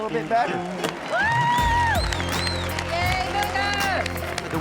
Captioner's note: crowd cheers